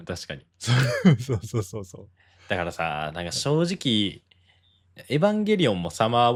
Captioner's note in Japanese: 笑い